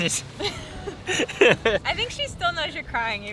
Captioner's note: both laughing